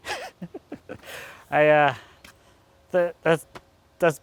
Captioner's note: laughing